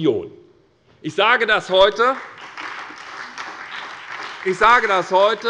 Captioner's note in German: Beifall bei der SPD